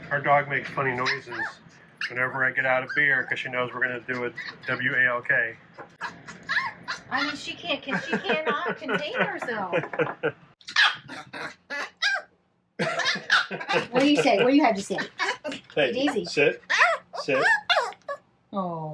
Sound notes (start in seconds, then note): 10.8 Daisy growls; 12.8 laughs